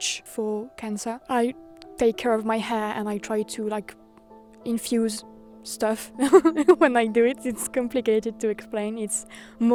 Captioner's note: laughs